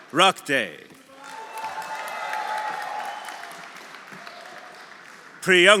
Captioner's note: audience applauding; audience cheering